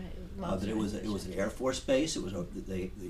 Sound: voiceover

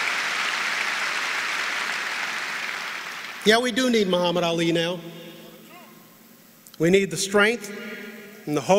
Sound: applause

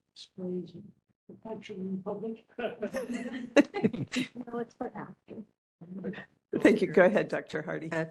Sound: laughing

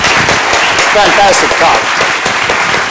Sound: applause

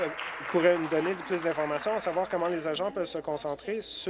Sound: applause

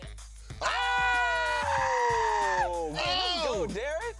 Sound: both cheering

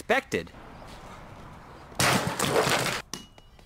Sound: metal clanging

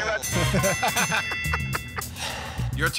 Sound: ding!

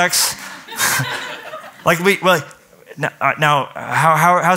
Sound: laughter

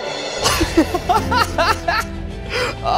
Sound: laughing

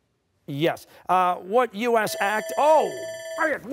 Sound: bell dings

